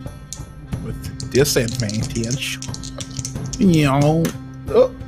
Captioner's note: dice rattling